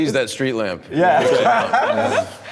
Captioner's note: laughter